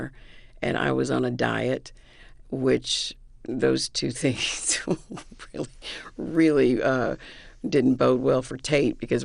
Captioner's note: laughter